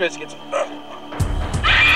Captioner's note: choking; scream